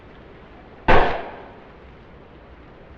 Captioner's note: gunshot